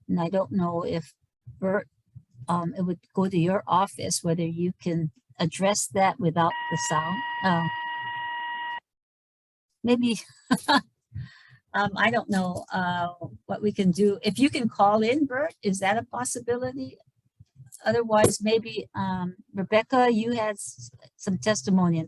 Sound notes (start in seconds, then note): 6.2 technical beeping; 10.2 laughs